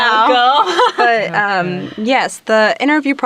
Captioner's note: chuckles